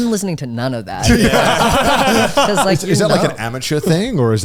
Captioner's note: all laughing